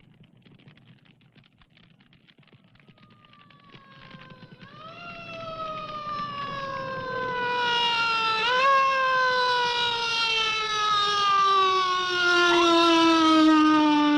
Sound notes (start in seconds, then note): 0.1 fire crackling; 3.5 siren wailing